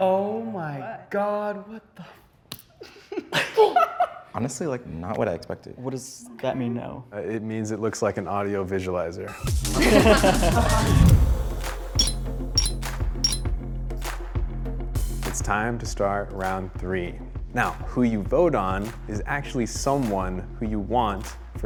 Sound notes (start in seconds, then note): 2.8 giggles; 9.7 upbeat music; 11.8 bricks clinking